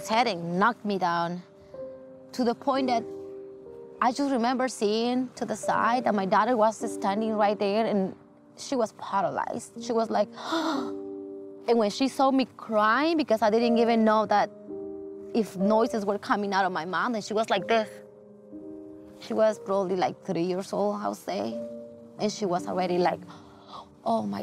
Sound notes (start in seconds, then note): 10.4 gasp